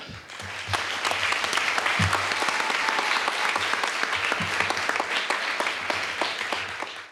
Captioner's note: applause